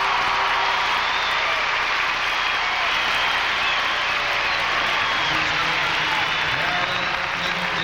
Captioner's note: applause